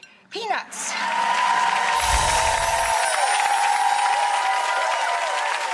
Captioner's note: audience cheers and claps